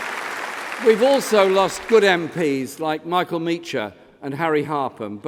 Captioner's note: applause